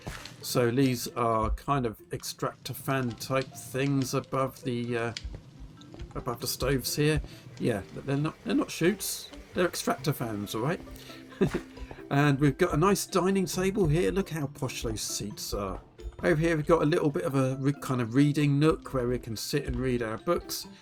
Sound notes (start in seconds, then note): 11.3 giggle